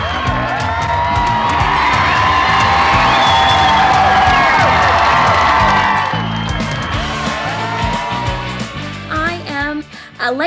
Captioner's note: fans on shore applauding and cheering; cheers and applause from the crowd gets much louder as she steps on shore